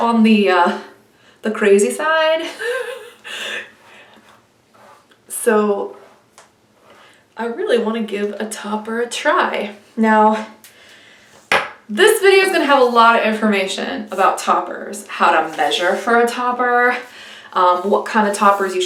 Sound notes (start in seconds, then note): 2.3 laughing